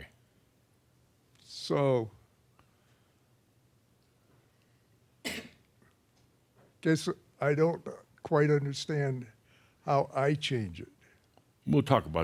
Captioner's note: he pauses